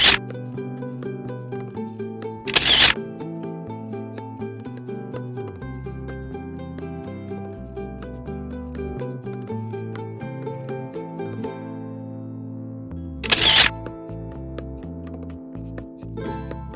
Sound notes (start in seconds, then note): 0.1 shutter clicking; 13.2 shutter clicking